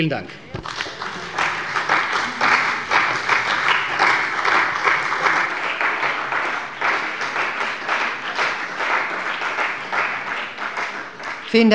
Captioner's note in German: Beifall bei der CDU